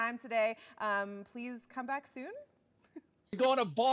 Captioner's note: chuckling